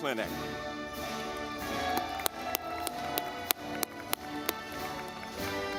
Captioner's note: audience clapping